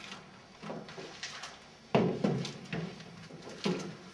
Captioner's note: footsteps